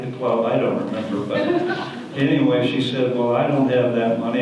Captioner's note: audience laughter